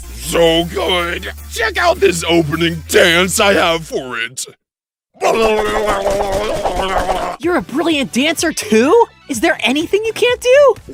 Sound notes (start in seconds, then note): 6.2 babbling noises